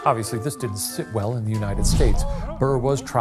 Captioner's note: Theodosia cooing faintly; screen whooshing